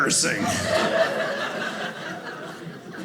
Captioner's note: audience laughing